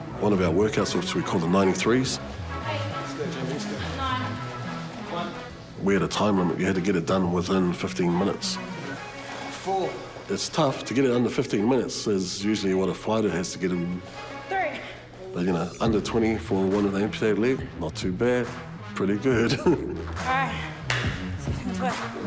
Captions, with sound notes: - All of our workouts, which we call the 93s,... - Eight, nine... - ...we had a time limit. We had to get it done within 15 minutes. It's tough to get it under 15 minutes. That's usually what a fighter has to get it in. But, you know, under 20 for a woman with an amputated leg? Not too bad. Pretty good. (CHUCKLES) - All right, let's go.